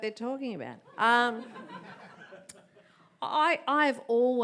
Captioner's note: audience laughs